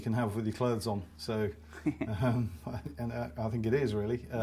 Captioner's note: both laugh